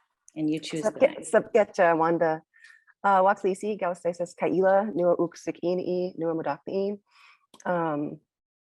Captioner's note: speaking in Native language